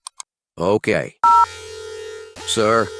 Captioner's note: siren noise begins